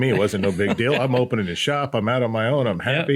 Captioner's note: laughs